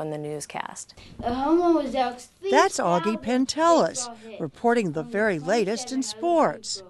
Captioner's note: child is speaking